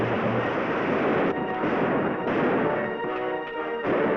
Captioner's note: gunshots bang